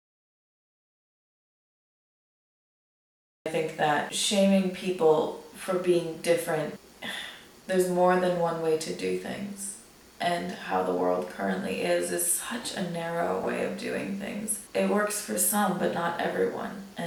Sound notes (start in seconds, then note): 7.0 sighs in annoyance